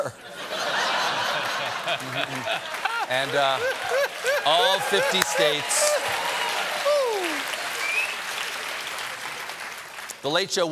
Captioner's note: laughter; cheers and applause